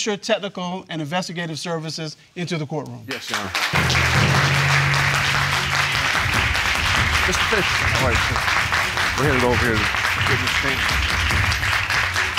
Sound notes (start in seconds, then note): 4.7 audience clapping